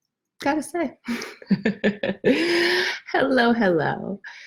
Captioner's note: laughs